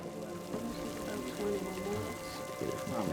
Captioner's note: water boiling